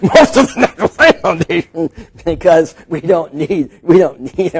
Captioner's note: laughing